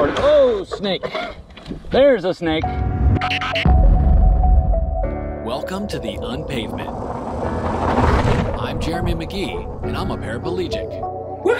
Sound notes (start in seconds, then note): 2.6 upbeat music; 2.8 electronic buzzing; 7.8 bike whirring